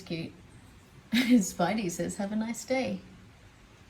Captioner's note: laughing